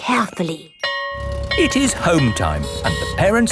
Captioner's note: school bell ringing